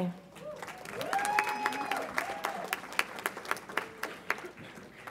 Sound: audience applauds and cheers

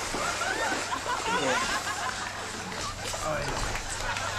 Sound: crowd laughing

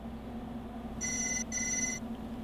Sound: phone rings

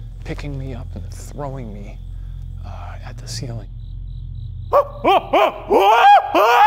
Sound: screams

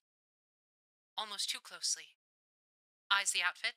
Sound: radio Filter

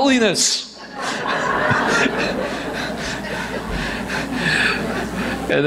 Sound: audience laughs

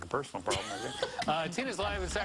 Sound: laughs

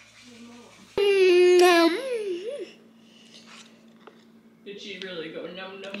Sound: excitedly eating

